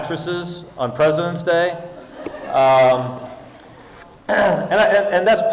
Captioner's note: audience laughing